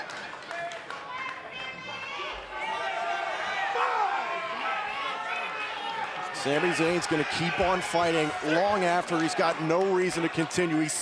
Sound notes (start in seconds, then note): 2.7 crowd shouting; 5.1 crowd shouting